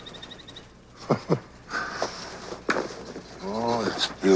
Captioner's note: chuckles